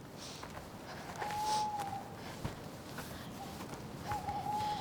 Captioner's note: owl hooting